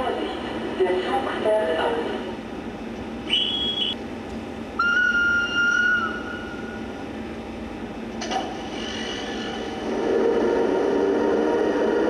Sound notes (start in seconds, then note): 0.2 foreign language; 3.2 whistle blows